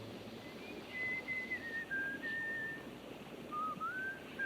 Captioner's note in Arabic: صافرة ريب